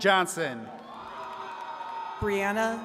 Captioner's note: attendees cheering and clapping